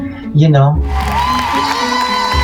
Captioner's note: audience applauding